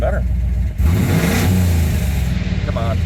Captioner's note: less throaty engine sounds